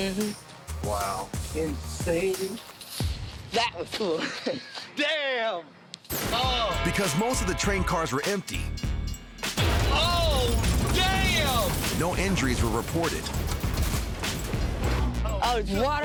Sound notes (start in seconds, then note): 3.9 laughing; 14.6 upbeat music